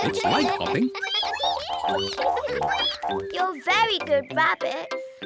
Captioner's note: all giggle; all squeak